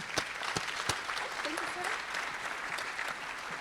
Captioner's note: applause